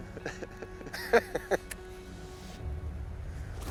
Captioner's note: laughing